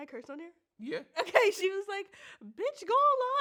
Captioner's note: laughs